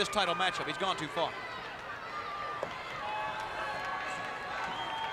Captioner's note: crowd clamoring